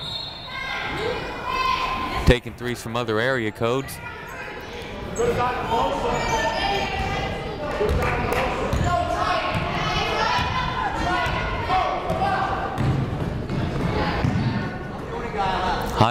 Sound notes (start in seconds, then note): 0.0 whistle blows; 6.6 players murmuring